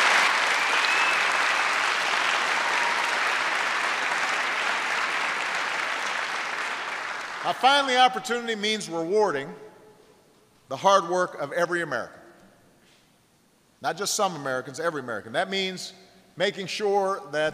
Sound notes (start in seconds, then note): 6.2 applause